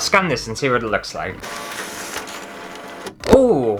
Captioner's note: scanning Sounds